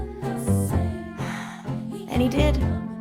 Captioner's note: sigh